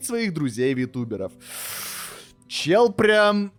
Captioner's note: aggresive inhaaaale